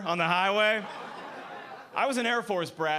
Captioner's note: audience laughing